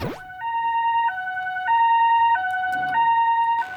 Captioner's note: siren wailing